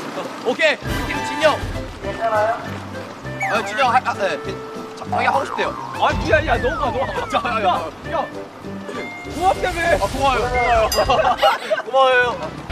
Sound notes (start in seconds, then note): 6.9 arguing